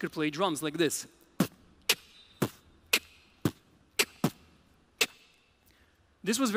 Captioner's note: beatboxing